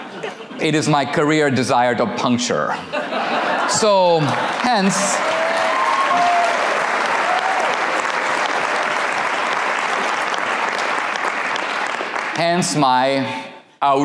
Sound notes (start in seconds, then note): 3.8 audience applause